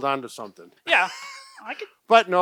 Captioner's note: chuckles